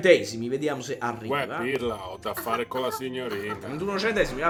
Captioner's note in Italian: tosse di sottofondo